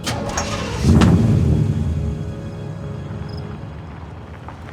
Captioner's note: engine rumbles